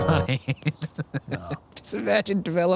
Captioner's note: laughing